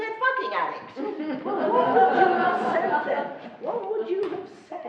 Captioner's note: laughing